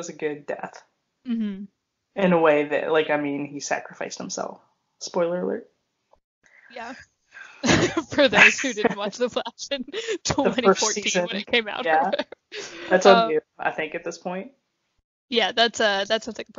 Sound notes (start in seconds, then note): 6.6 both laugh